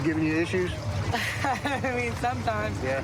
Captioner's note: laughs